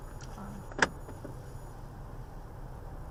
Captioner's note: audible clicking of door locks